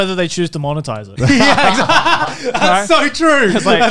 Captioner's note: laughing